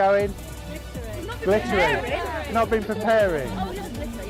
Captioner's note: all ladies talking